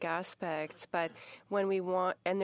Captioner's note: speaking French